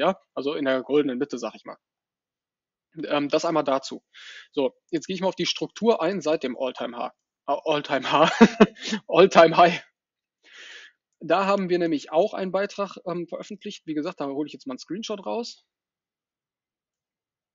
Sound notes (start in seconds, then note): 8.0 laughs